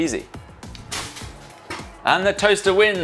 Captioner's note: toaster pops